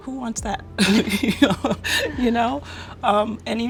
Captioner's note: laughing